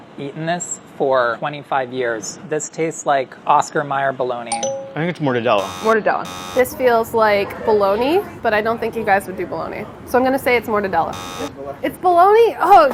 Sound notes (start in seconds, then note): 4.5 dinging; 6.2 buzzing; 11.1 buzzing